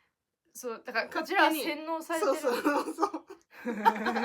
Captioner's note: laughs